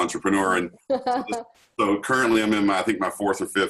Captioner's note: laughs